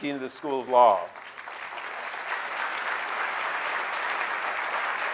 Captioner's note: audience clapping